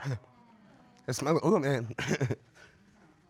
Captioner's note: chuckling